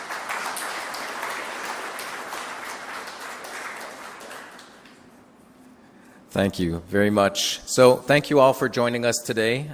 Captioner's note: applause